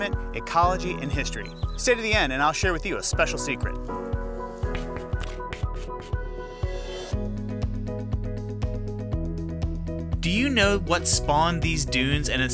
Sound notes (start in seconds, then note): 4.4 chalk scratching; 6.9 pleasant music continues